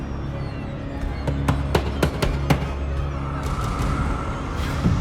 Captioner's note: knocking